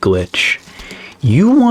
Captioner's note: inhales Oxygen